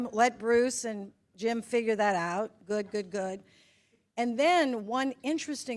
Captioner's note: none